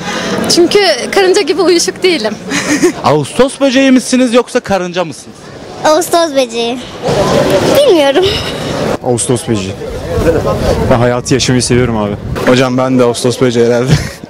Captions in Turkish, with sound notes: - Çünkü karınca gibi uyuşuk değilim ( Gülme sesi ) + Ağustos böceği misiniz ? Yoksa karınca mı ? - Ağustos böceği - Bilmiyorum - Ağustos böceği + Neden ? - Ben hayatı yaşamayı seviyorum abi - Hocam ben de ağustos böceği herhalde